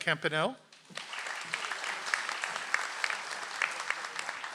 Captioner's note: audience applauds